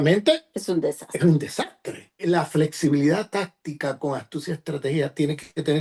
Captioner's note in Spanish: carraspeo